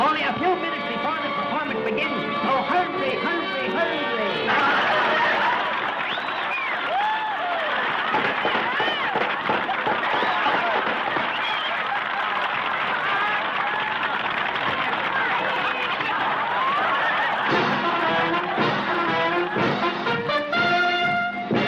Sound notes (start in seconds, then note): 4.7 crowd cheering; 8.4 wood clattering; 18.4 upbeat band music